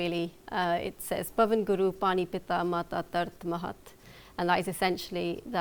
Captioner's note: non-english speech